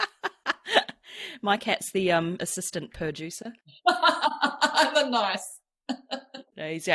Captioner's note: laughs